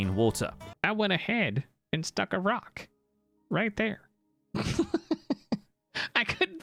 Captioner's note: laughs